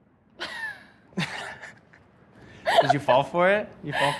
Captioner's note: laughs